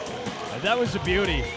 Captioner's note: crowd cheering